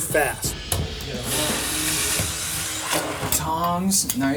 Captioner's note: blender whirring